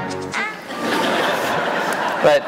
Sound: laughter

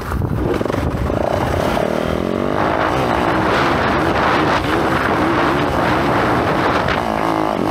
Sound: engine revving

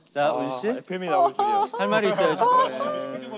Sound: laughing

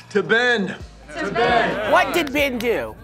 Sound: crowd

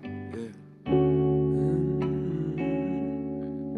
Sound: humming

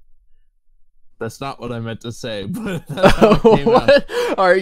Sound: laughing

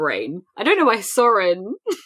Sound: laughs

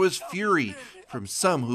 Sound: speaking Foreign Language

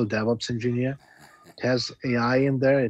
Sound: chuckling

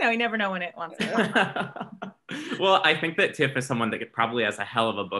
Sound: laughs

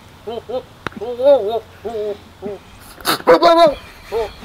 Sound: goat barking

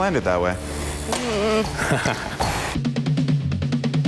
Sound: laughing; upbeat music

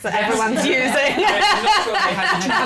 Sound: laughter

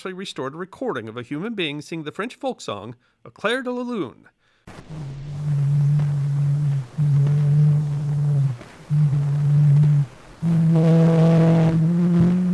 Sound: recording being played

